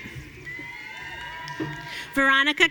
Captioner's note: audience cheering